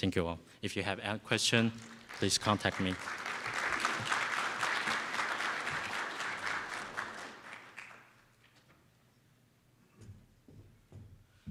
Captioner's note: round of applause from audience